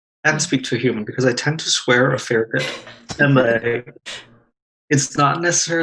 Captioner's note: laughs